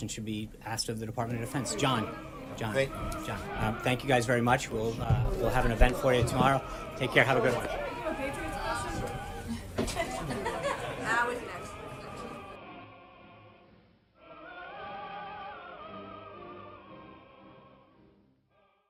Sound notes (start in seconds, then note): 9.7 laughter; 14.9 music fades out